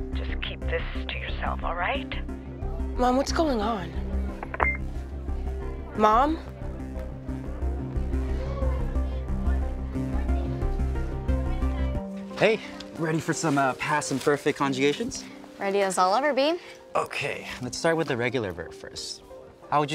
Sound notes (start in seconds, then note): 4.6 call ends; 7.1 dramatic music